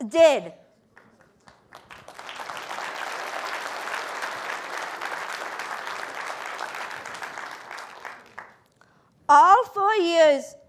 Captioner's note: applause